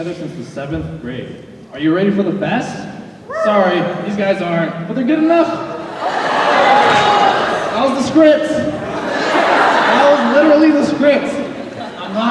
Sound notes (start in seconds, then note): 5.7 audience laughing